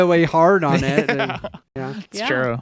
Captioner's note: laughing